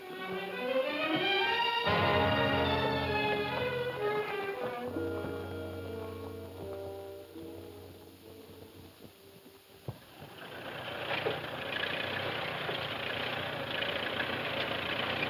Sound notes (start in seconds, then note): 1.5 dramatic music; 9.9 tractor rumbling